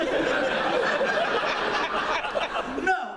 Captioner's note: laughter